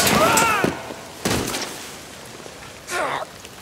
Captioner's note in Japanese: 落ちる音